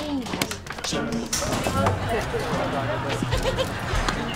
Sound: distant conversations

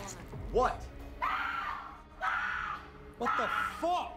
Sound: girl screams

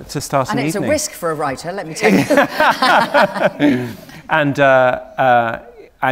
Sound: laughter

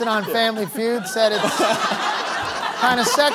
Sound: laughter

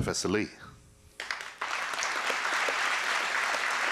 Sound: applause

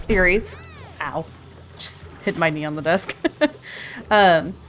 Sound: laughs

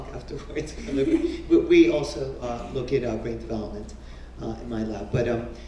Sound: laugh

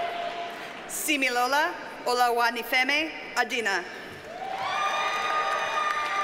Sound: audience cheers and applauds

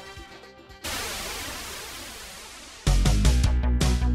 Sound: wind whooshing; upbeat music

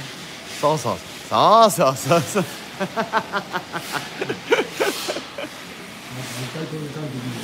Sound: laughs

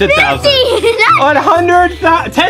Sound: giggles

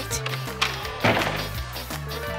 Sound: door opening

